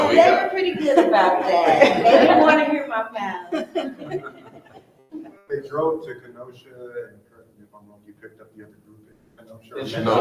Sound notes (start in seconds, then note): 3.4 all laughing softly